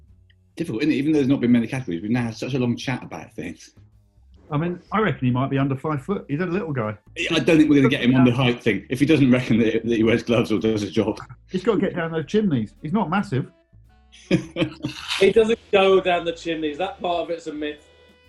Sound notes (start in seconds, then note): 14.1 chuckling